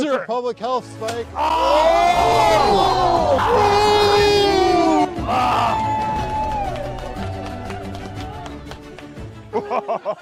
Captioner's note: cheers